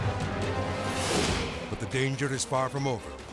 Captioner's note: aircraft whooshing; graphics whooshing